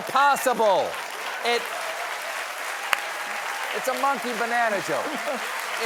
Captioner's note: applause; laughter